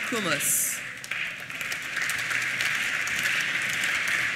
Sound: applause

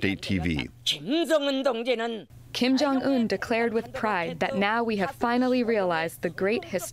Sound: through translator

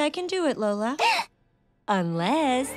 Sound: gasping

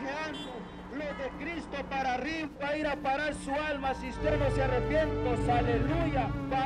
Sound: spanish preacher

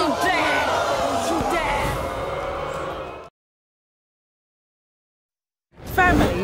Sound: audience gasps

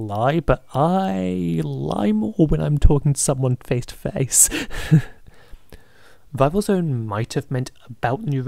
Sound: laughs

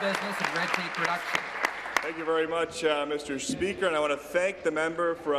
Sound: applause

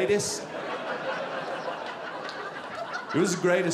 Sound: audience laughing

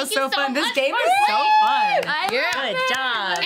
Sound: cheering

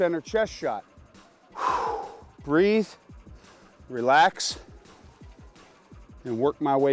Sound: deep sigh

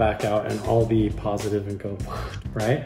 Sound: whooshing

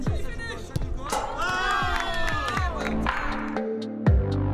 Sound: cheering

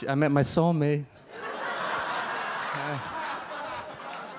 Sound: audience laugh

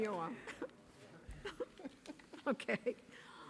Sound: laughing

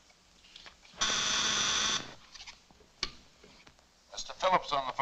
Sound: intercom buzzes

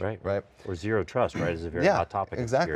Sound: murmurs

